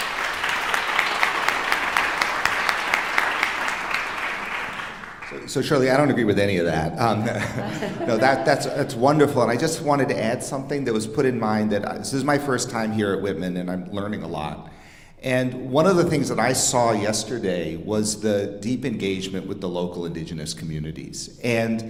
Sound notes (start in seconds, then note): 0.0 audience applauding; 7.1 audience laughing